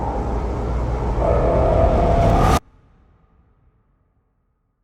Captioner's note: wind whooshing